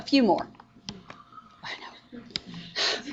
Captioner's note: faint laughter